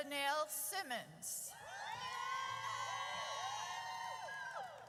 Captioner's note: audience cheers